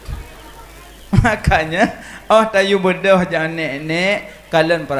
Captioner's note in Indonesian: tertawa